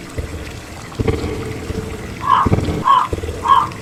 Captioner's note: raven sfx